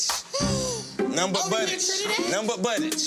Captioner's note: woman gasping